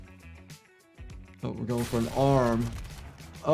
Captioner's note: gun fires